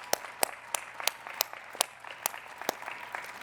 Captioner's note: applause